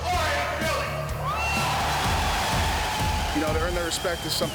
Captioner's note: crowd cheering